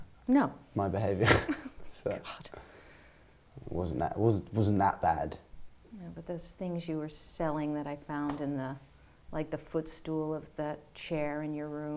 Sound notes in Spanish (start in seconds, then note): 1.2 risas